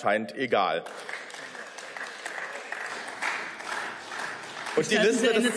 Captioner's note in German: Beifall